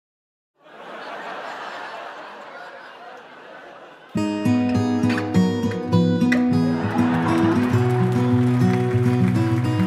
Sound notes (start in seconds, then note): 1.2 television audience sounds